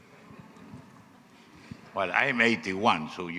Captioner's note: audience laughing